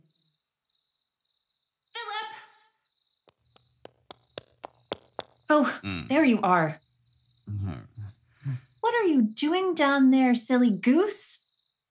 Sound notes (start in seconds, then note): 3.3 footsteps